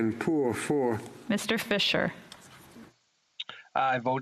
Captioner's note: speaking French